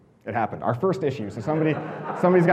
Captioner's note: audience laughing